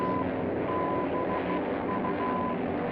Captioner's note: beeping